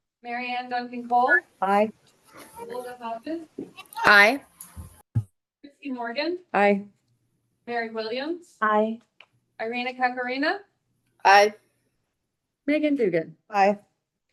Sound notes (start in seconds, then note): none